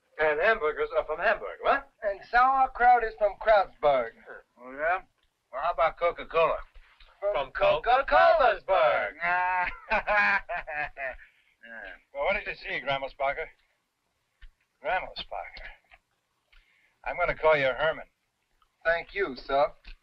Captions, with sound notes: - And hamburgers are from Hamburg. - What? - And sauerkraut is from Kreuzberg. - Oh, yeah, well how 'bout Coca-Cola? - From Cocacolasberg! (laughing) - Well, what did you see, Grammelsbacher? Grammelsbacher. I'm gonna call ya' Herman. - Thank you, sir.